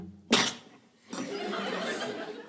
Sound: cough

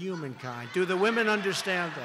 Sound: laughter

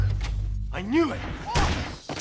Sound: loud bang

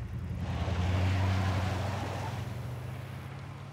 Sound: engine revs

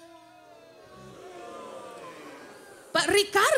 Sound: booing and hissing from audience

